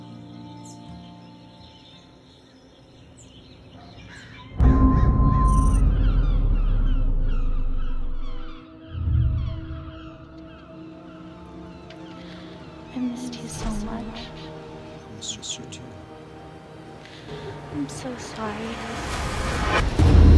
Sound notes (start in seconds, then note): 2.5 unsettling music; 4.6 startling tone